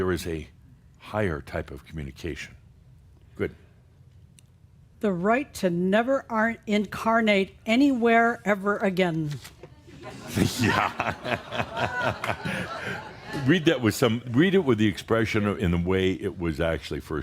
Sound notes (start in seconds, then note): 10.1 Adamus chuckles; 10.2 some chuckles